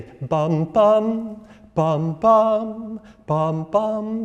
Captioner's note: instructor vocalizing